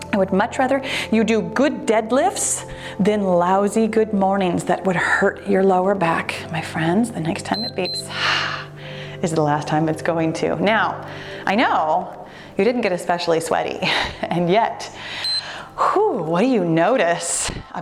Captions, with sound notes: I would much rather you do good deadlifts, then lousy good mornings that would hurt your lower back. My friends, the next time it beeps (timer beeps) is the last time it's going to. Now, I know you didn't get especially sweaty, and yet, whew, what do you notice